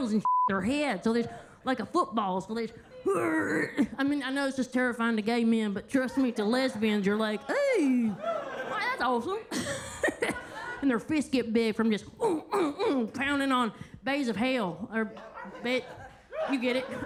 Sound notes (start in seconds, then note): 0.2 beep; 3.1 Kentucky Lightning grunts; 9.7 everybody laughing; 12.7 grunts; 16.8 everybody laughing